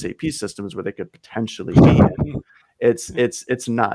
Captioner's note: laughing